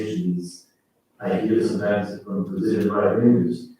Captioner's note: faintly speaking